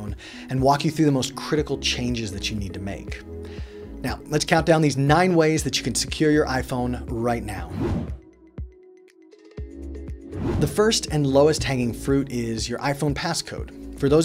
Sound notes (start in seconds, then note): 7.7 whooshing; 8.7 gentle music